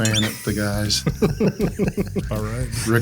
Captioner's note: group laughs